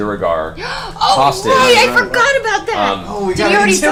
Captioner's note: gasps